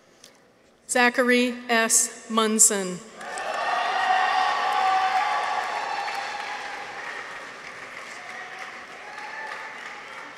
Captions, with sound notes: Zachary S. Munson. -(people cheer) -(audience applauds)